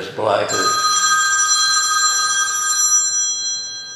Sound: phone rings

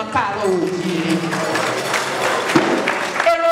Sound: a round of applause

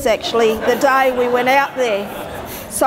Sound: audience laughter

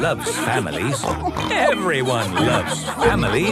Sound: snorts

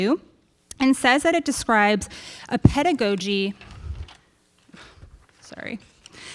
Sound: paper rustling

